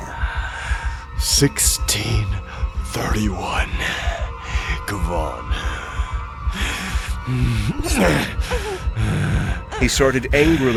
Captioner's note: more grunts of effort with each cut, pained sounds from Ilani